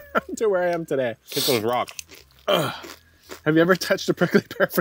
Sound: grunts

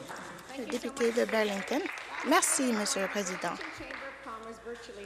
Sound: applause

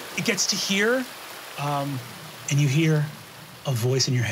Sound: none

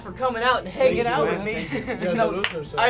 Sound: laughing

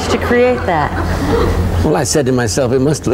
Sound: crowd laughing

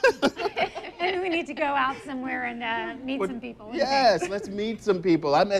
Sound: laughs

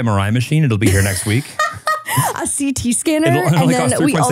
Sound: laughs

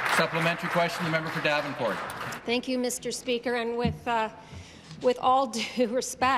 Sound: applause

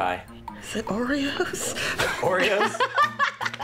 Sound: chuckles; laughs

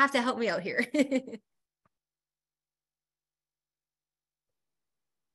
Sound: chuckles

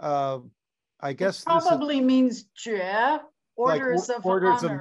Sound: non-english

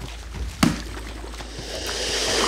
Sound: head slaps; alligator hissing

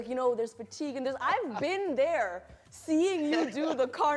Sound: laughs

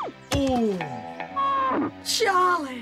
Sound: moo!

